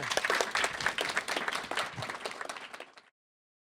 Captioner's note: all applaud